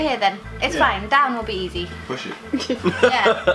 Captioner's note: laughter